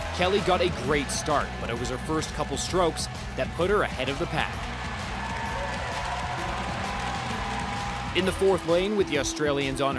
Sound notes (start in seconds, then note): 3.6 cheering